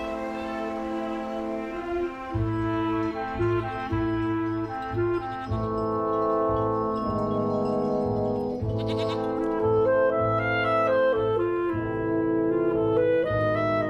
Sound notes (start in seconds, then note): 8.7 goat bleating